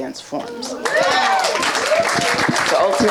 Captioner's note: audience applauding and cheering